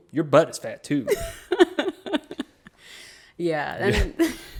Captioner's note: laughs